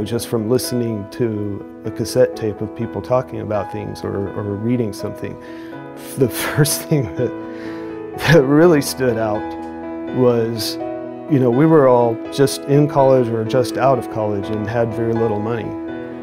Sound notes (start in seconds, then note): 7.6 chuckles